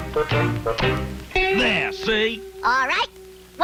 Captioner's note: hoof clomps